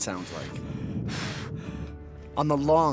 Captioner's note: heavy breathing